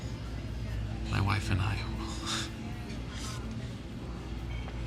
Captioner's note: sighs